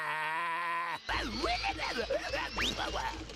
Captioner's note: grunting